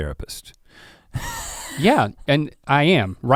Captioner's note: chuckles